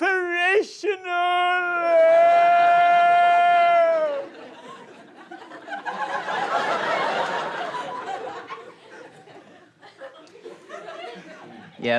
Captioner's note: yells